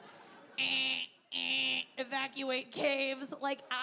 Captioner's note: mimic alarm blaring